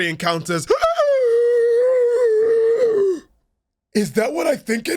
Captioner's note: gasp